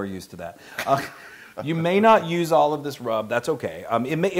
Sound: laugh

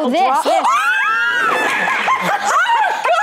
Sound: screaming; laughter

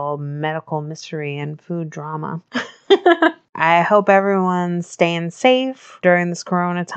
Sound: laughs

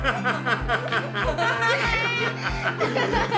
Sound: laughing

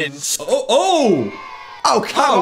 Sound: reversed audio; children cheering

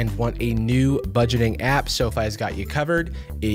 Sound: none

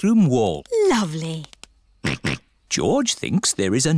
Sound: snorts

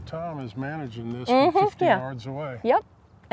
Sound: laughs

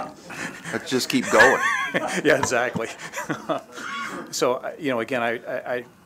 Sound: laughter

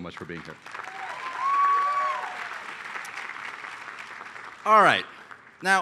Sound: applause

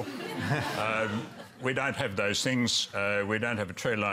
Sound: laughter

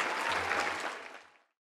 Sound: applause

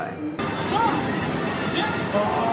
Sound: arcade Character Making Noise

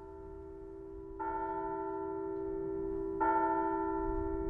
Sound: bell tolling

